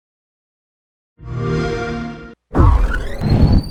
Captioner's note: xbox sound